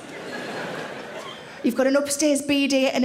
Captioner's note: audience laughing